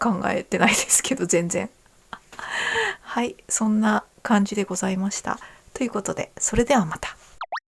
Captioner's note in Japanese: 笑い